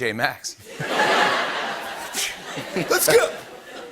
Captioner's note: laughter